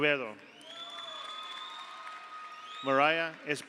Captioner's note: audience applauds; audience cheers